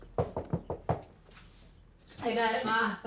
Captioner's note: knocking